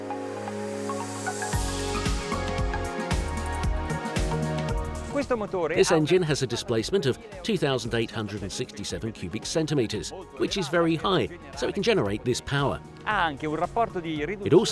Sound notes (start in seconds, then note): 0.1 bright upbeat music; 5.3 speaking foreign language